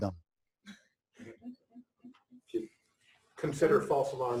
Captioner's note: pause